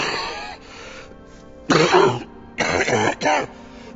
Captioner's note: coughing